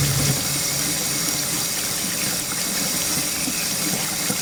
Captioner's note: water continues running